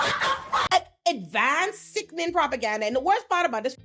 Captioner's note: laughing